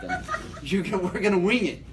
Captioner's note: laughs